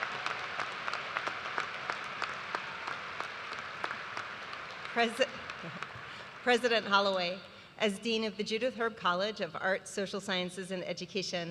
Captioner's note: cheers and applause